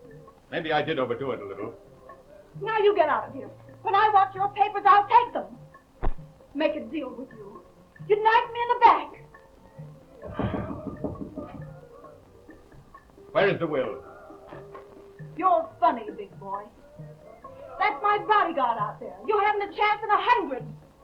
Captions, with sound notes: - Well, maybe I did overdo it a little. - Now you get out of here. When I want your papers, I'll take them. Make a deal with you? You'd knife me in the back. (knuckles rapping) - Where is the will? - You're funny, big boy. That's my bodyguard out there. You haven't a chance in a hundred.